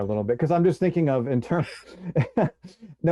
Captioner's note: chuckles; laughs